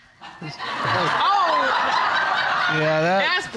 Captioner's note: audience laughing